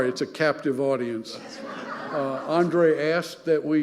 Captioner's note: audience laughing